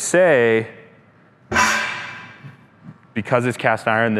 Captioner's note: lid clanking